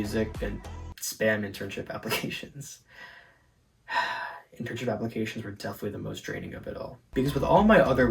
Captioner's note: sigh